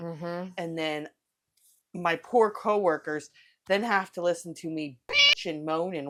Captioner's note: meow